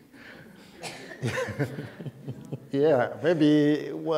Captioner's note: laughter